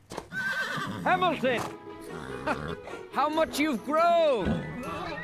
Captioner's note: laughing